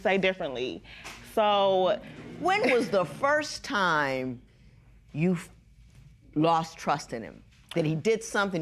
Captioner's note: spectators murmur